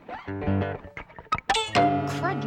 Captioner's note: loud twang